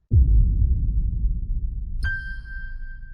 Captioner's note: heavy pulse; light ding